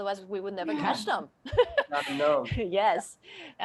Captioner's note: laughing